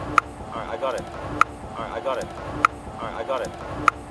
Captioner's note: tongue click